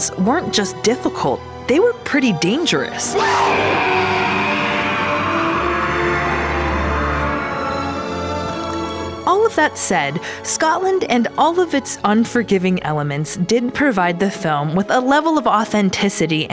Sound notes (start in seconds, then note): 2.9 man screams